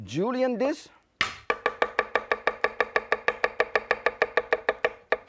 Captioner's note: loud chopping